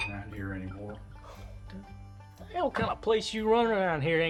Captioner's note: scoffs